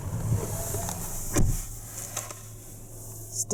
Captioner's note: closing driver's door